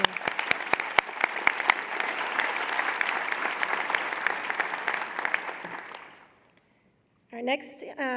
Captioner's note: applause